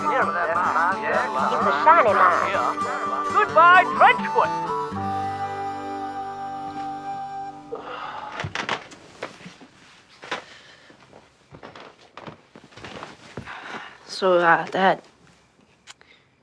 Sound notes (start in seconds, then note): 6.2 sighing